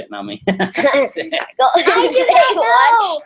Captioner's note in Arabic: يضحك